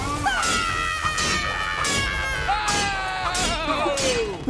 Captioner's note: fruit all screaming